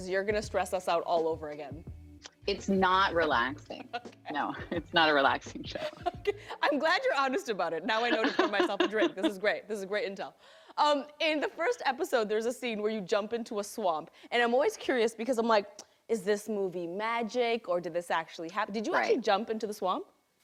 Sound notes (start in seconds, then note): 5.7 laughing